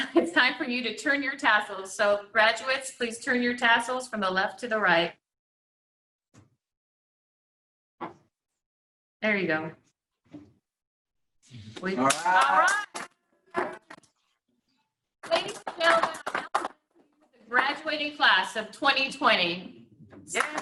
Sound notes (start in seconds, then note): 12.0 cheering; 12.4 clapping; 20.3 clapping; 20.3 cheering